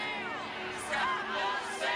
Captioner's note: crowd